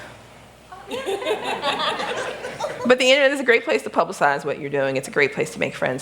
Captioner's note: laughter